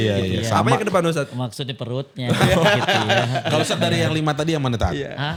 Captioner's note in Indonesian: tertawa